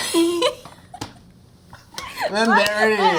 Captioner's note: all laugh